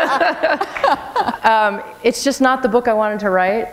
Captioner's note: laughter